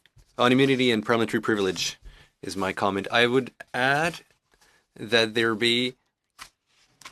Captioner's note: speaking in French